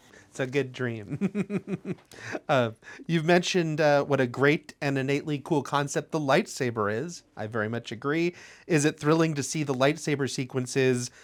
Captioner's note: laughs